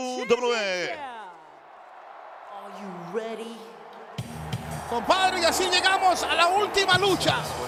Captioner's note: applause